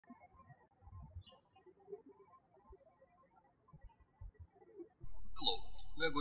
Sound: birds chirping

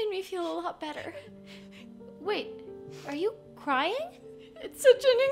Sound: crying

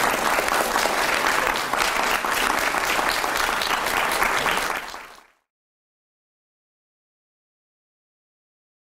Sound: applause

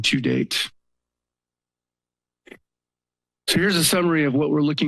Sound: pause

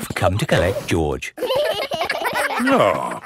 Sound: giggling

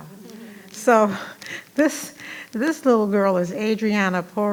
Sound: attendees laughing

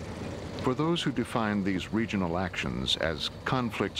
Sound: voiceover

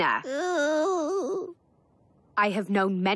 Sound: groans

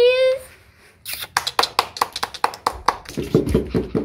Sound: clapping

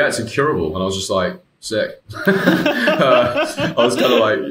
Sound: laughing

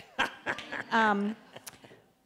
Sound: laughs

